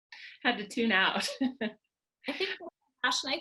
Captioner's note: laughing